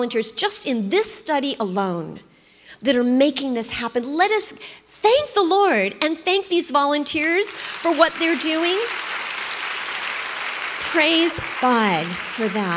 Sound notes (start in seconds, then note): 7.4 congregation applauds